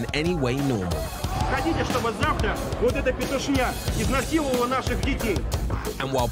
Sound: speaking in foreign language

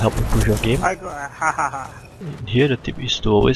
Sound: maniacal laughter

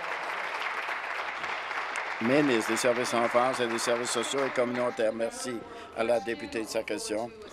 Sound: applause

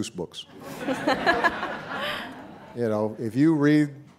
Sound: audience laughing

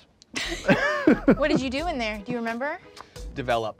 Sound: host laughing; laughs

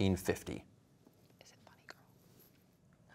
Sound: whispering

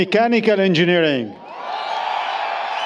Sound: applause, Cheering

